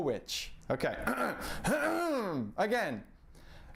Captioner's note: clears throat